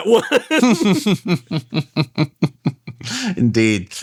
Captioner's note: laughs